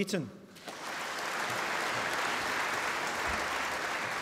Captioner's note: applause